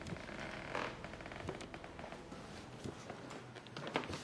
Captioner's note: creaking